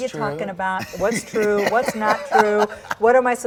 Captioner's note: laughing